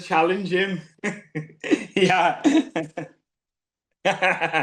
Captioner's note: lacht